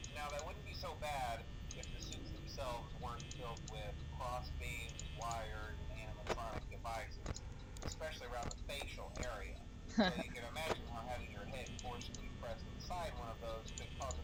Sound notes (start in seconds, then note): 9.9 laughs nervously